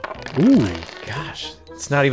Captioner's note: gasps